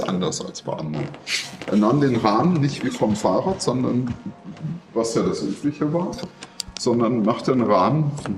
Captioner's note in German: schnauben